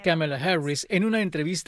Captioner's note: habla en ingés